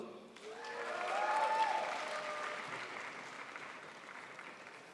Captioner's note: crowd applauds